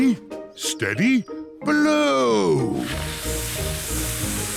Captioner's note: all blow